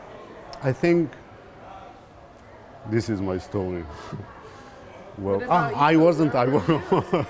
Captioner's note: laughing